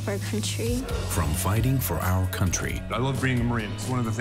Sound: voiceover

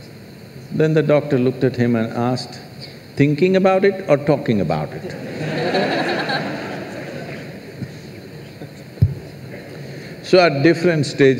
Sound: laughter

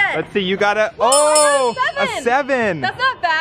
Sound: bell dings

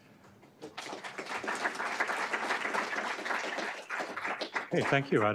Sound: applause

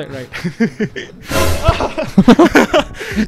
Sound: something drops

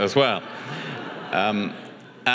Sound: audience chuckles

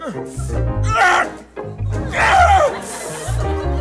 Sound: grunting

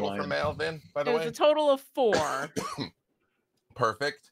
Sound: coughing

